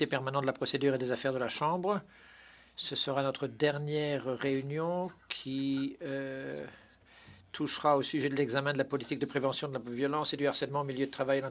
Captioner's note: speaking French